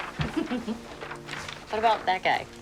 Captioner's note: Cassie giggles